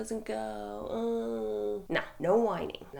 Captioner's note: groaning